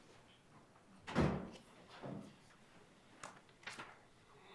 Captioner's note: door closing